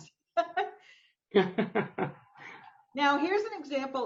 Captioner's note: both laughing